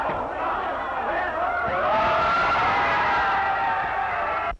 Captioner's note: all screaming